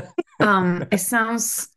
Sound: laughter

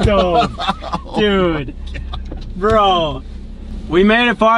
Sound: laughing

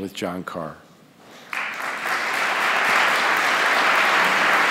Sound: audience applause

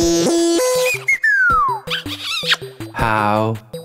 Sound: chirping; kiss

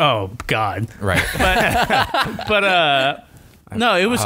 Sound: laughter

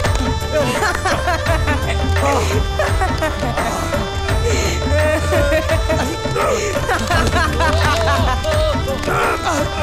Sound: laughs

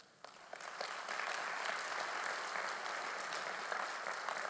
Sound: audience applauding

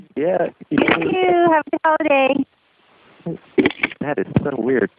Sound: laughing

